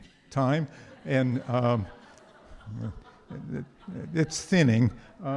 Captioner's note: audience laughs